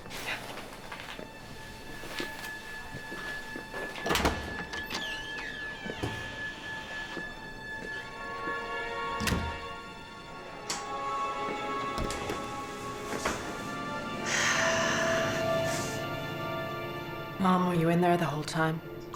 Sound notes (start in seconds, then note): 14.3 sigh